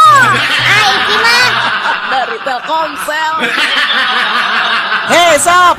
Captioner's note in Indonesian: tertawa